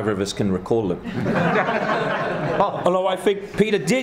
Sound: laughter

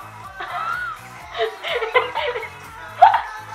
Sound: laughing

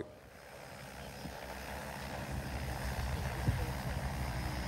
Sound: drone engine purrs

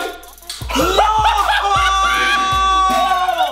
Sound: laughing

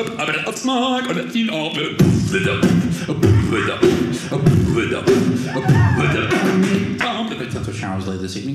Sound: beat boxing

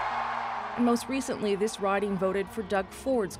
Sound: cheers and Applause

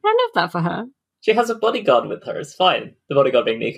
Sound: laughing

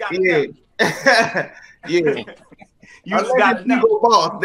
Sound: laughs

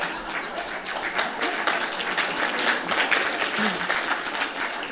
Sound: laughter and Applause

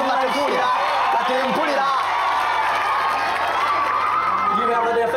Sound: applause and cheering

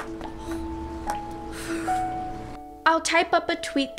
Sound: heaves a sigh of relief

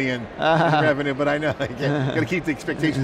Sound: chuckles

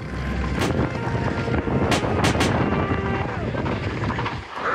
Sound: wind whirling

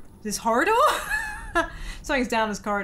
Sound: laughing

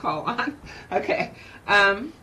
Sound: chuckles

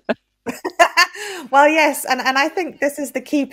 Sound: laughs

